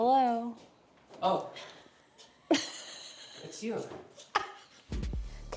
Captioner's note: laughing